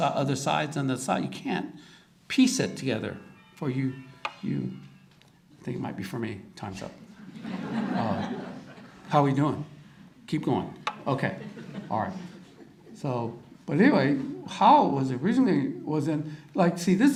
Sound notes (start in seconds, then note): 3.2 phone rings; 7.2 audience chuckles